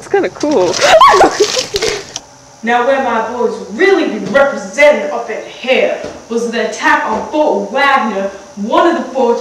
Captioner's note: screams